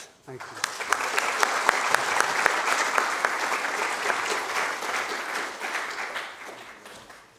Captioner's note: applause